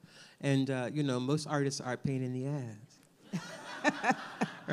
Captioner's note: laughs